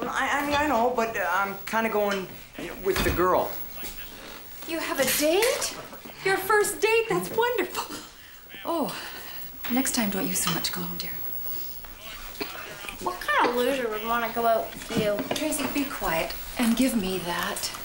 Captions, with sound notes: I MEAN, I KNOW, BUT, UH-- I'M KIND OF GOIN' WITH A GIRL. YOU HAVE A DATE ? YOUR FIRST DATE ! THAT'S WONDERFUL. OH ! NEXT TIME DON'T USE SO MUCH COLOGNE, DEAR. [ Coughing ] WHAT KIND OF LOSER WOULD WANNA GO OUT WITH YOU ? TRACY, BE QUIET, AND GIVE ME THAT.